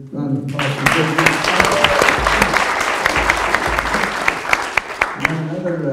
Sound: audience applause

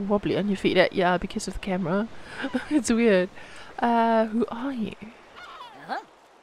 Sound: Npc noises

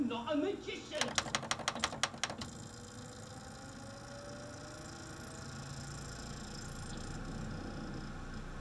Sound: rapid button presses, disc speeds up

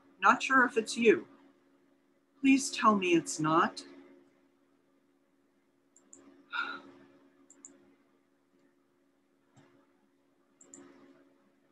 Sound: pause

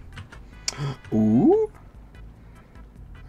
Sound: gasp

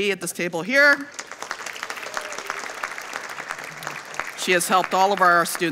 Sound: audience applauding

